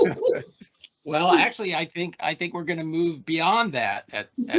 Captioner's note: laughing